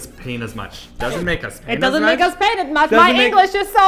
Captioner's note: record scratches